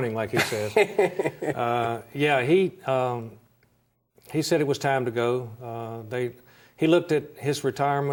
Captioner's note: laughs